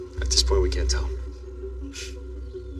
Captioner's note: scoffs